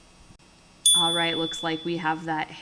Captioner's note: chime